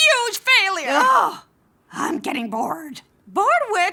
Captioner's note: groans